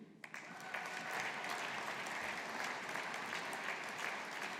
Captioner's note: audience applauding